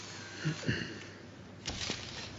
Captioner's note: clears throat